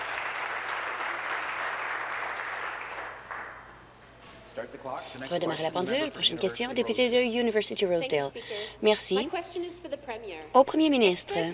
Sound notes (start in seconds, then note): 0.0 applause